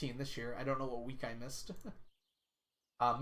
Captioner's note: laughs